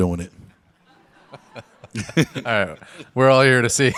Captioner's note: Tom, Dwyane, and audience laugh